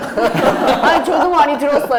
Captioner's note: laughs